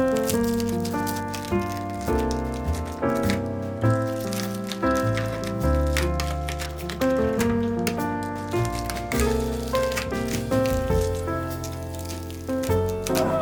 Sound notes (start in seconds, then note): 10.5 bubble wrap